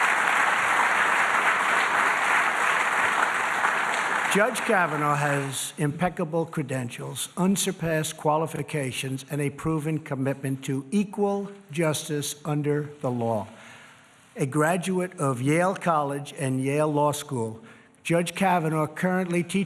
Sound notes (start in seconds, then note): 5.9 applause